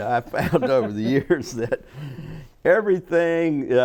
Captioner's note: chuckle